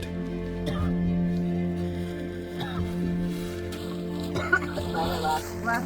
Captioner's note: coughing